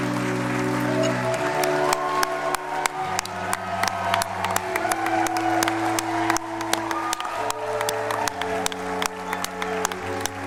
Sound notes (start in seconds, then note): 4.7 crowd cheering